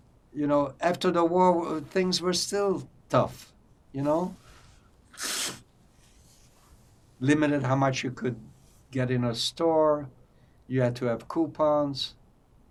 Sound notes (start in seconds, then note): 5.1 wiping nose